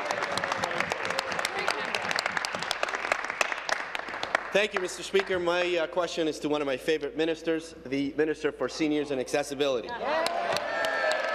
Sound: applause

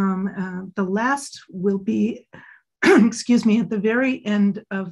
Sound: coughs

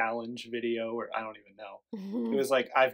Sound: laughs

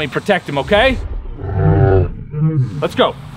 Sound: dinosaur sound

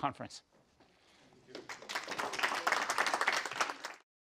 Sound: applause

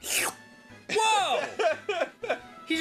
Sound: Arin laughs

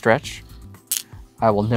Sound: stones clattering

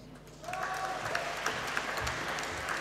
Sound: applause

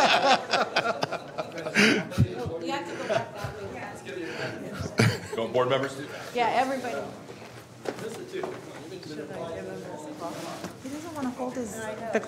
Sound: laughter

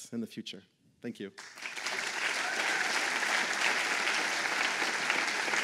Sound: applause

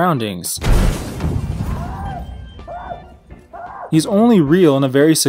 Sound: man's screaming muffled in background

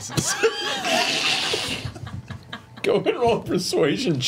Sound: all laugh

